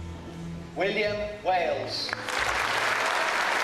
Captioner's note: voiceover; applause